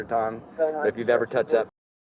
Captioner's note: radio chatter